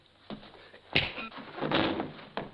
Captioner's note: thudding